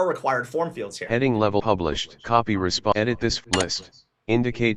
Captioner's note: NVDA talking